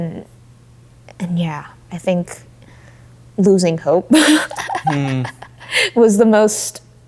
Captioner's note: laughing